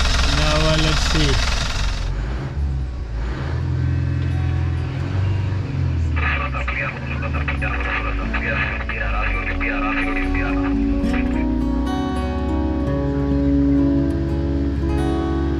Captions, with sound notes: Now, let's see. (motor revving) (radio chatter) (gentle airy music)